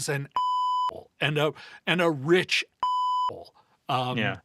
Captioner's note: beep; beep